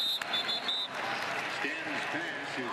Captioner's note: whistle; pa announcement